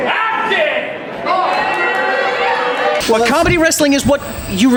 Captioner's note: crowd shouting